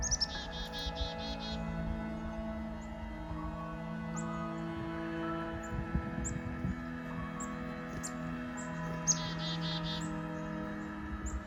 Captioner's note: chickadee song